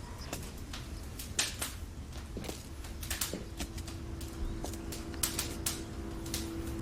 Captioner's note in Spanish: Sonido del crepitar de las llamas